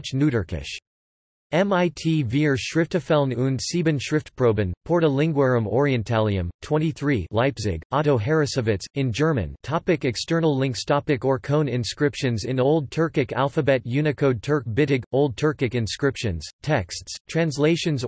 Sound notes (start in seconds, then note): 9.5 in German